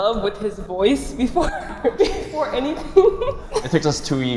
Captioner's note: giggles